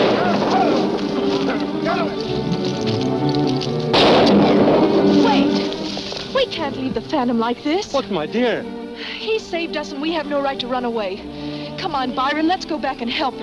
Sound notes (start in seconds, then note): 0.0 gun fires; 3.9 gun fires